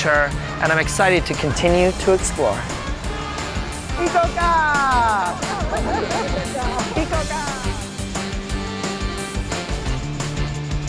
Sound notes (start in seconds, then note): 4.1 shouts in Japanese; 5.7 outro music